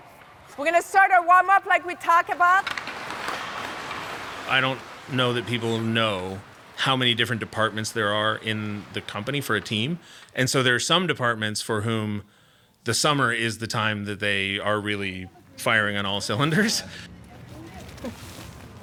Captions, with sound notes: - Okay, we're gonna start our warmup like we talked about. (ice skates whooshing) - I don't know that people know how many different departments there are in the company for a team. And so there are some departments for whom the summer is the time that they are really firing on all cylinders.